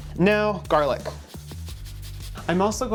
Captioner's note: garlic whooshing